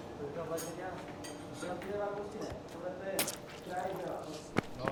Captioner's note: workers chattering